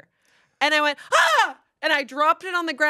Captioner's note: yells